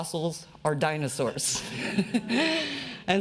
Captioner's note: laughs